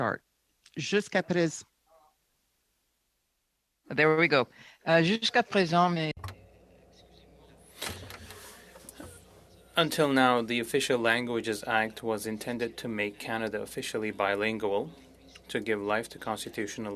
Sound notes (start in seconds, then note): 5.2 speaking French